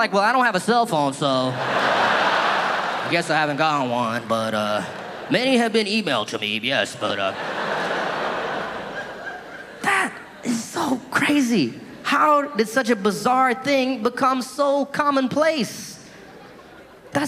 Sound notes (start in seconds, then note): 1.5 audience laughing; 6.9 audience laughing